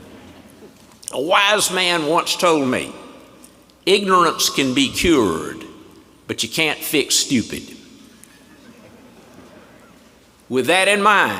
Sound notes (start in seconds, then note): 3.1 laughter